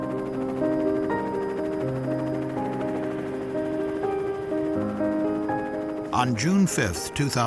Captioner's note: sound of helicopter rotors